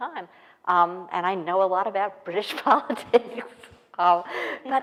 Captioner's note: laughs